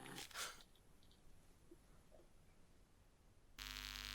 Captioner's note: Phil snoring; Phil gasps